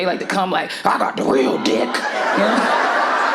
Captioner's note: mocking; audience laughing